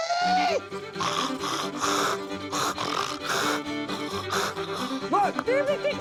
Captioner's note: imitates a hog grunting